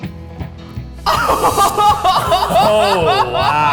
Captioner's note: laughs happily